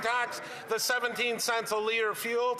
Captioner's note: applause